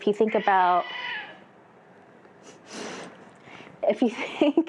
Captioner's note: cat growls